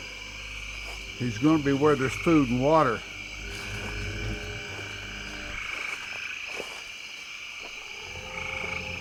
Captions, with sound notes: He's gonna be where there's food and water. (insects chirping)